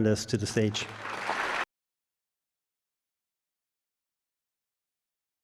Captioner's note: audience applauds